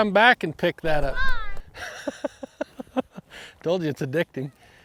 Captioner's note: laughs